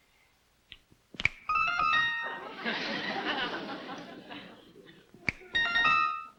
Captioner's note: whimsical chimes; finger snaps; finger snaps; whimsical chimes